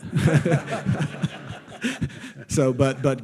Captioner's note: audience laughing